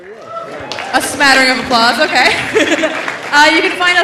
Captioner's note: laughs